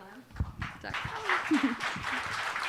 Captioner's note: applause